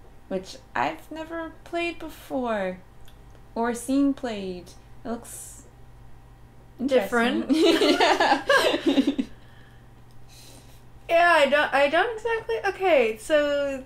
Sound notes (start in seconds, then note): 7.4 laughter; 7.5 laughing